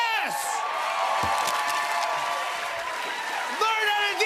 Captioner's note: cheers and applause